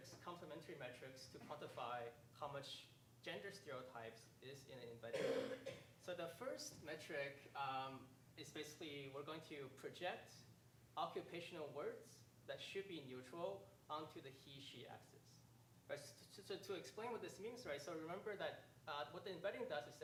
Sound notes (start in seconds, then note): 5.1 coughing drowns out speaker